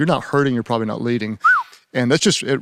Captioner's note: whistles